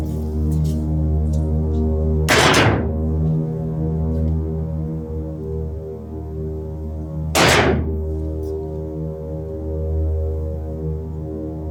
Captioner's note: sticks pound rhythmically